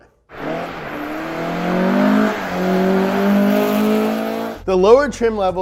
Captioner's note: engine roaring